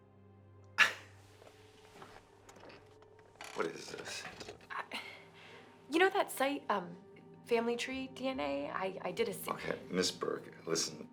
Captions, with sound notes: (laughs) What is this? - You know that site Family Tree DNA? I did a-- - Okay, Miss Burke, listen.